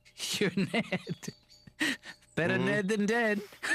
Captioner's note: laughing